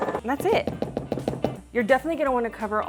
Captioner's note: spatula banging